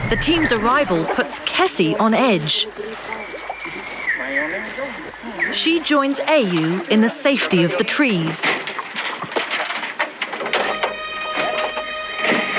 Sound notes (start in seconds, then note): 4.3 in foreign language